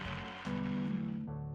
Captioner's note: audience cheers and applauds